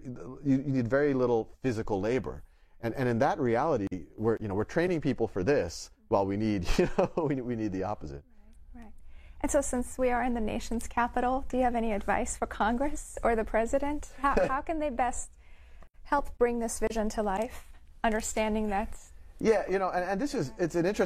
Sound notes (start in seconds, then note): 7.0 laughs